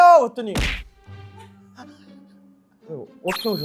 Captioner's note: thud!